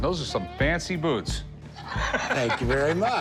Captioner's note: laughs